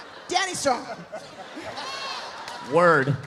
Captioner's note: audience laughs; laughs